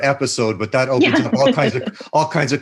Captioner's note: laughs